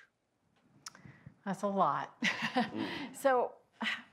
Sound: laughs

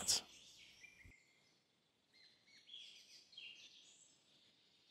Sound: birds chirping

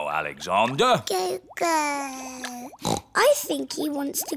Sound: babbles; snorts

